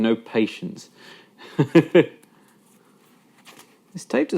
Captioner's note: laughing